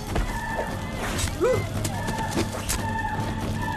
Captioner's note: grunts